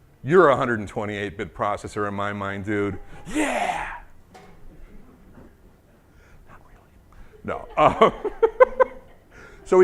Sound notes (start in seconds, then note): 7.0 whispers; 7.1 laughing